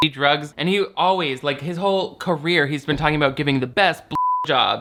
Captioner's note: beep